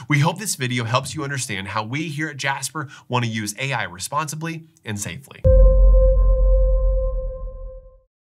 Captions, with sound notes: We hope this video helps you understand how we here at Jasper want to use AI responsibly and safely. (booming chime reverberates)